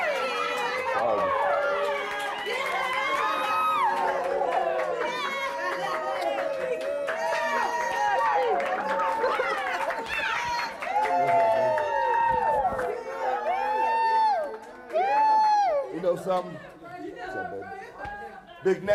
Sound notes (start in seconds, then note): 3.6 crowd chatter